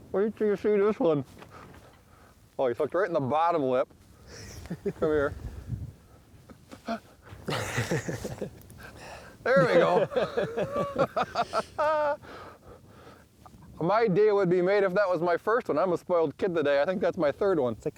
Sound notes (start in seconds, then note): 9.4 laughing